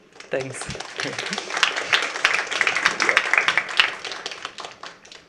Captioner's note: applause